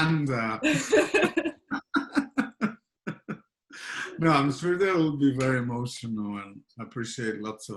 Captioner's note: laughter